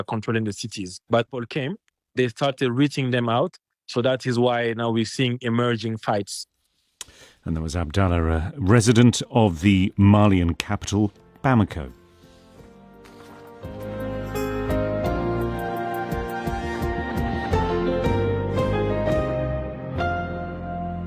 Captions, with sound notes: controlling the cities. But Paul came, they started reaching them out, so that is why now we're seeing emerging fights. [lip smacks] And that was Abdallah, a resident of the Malian capital, Bamako. [gentle music]